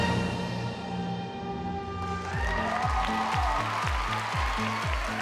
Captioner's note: audience cheering